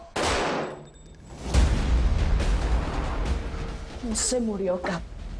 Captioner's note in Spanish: Disparo